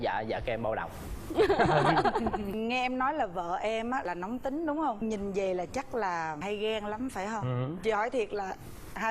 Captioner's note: laughing